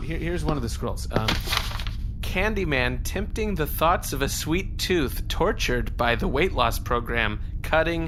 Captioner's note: sound of page turning